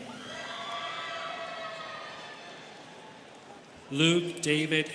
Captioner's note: students cheering